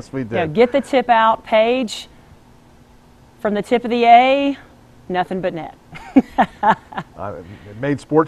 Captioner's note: chuckles; chuckles